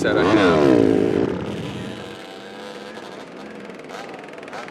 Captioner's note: engine revving